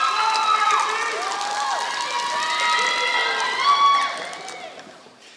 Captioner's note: applause